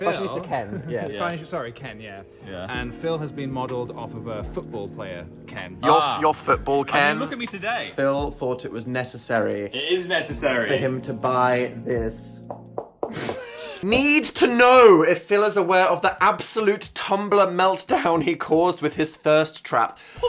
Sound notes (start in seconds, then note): 12.4 hand knocking; 13.1 Dan laughing